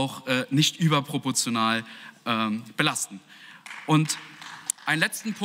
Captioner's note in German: Beifall